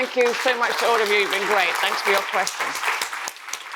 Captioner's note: audience applauding